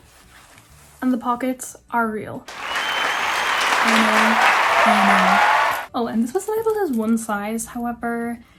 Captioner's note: applause